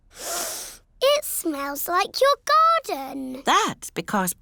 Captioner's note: sniffs